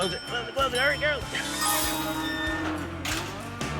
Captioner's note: dings